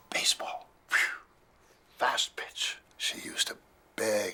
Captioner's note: imitates wind